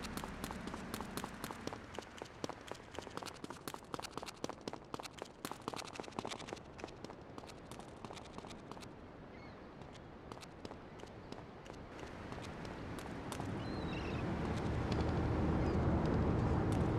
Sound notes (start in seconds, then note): 1.4 gun firing